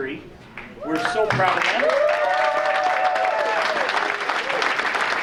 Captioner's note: audience cheering